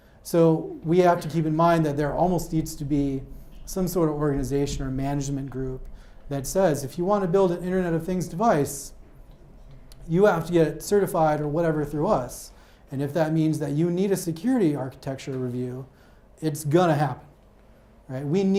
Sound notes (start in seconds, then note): none